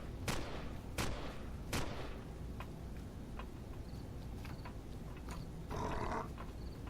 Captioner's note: incoming turret shots; turret shots; bats growling; footsteps